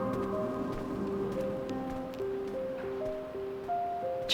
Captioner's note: footsteps